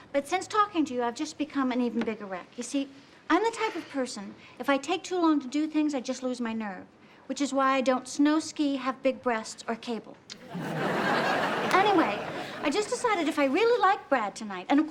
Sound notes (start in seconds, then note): 10.3 audience laughs